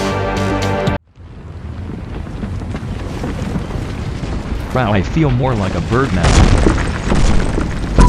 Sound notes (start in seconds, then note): 1.1 building Crumbles